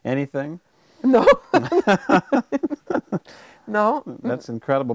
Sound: chuckling

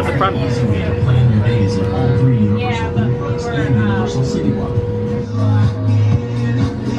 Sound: guests chatting; boat whirring; lively music

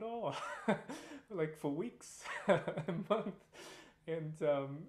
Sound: laughter

